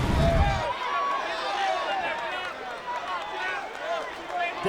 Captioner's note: audience chattering